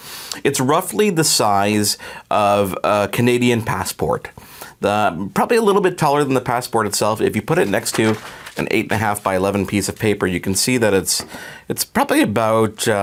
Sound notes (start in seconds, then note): none